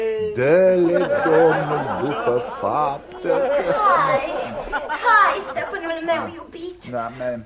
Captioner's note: laughter